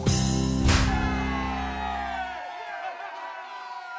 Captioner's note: cheering